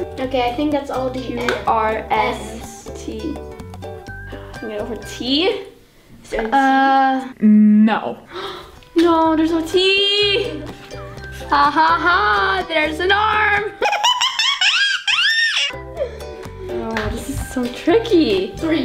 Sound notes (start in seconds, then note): 13.8 laughs